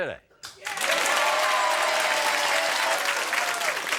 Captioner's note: applauding